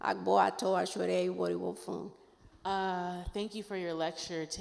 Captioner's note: speaking in foreign language